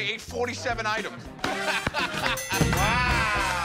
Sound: laughter

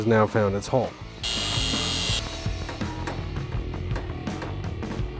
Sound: mechanical whirring

